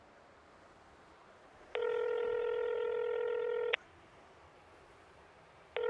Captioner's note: ringback tone beeping